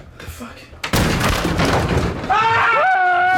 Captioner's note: both breathing heavily; door slams open; both screaming